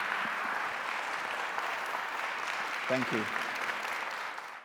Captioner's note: applause continues